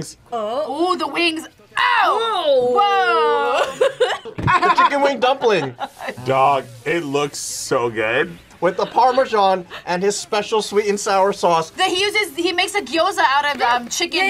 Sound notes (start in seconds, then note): 3.2 laughs